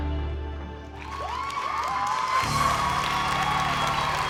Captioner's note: crowd cheering, clapping